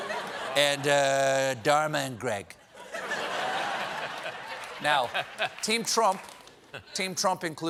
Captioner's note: laughter